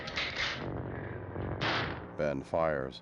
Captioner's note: gunshot